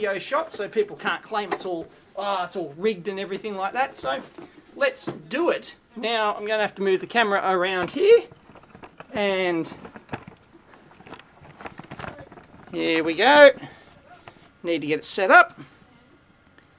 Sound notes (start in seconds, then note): 7.7 sound of equipment shuffling